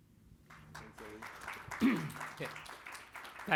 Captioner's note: crowd applauding